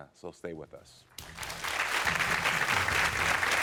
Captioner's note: cheering